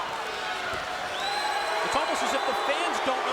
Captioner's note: crowd cheers and boos